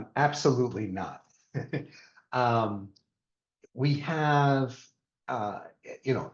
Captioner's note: chuckle